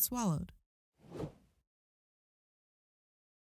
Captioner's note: transition whooshing